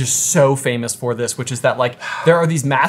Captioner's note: sighing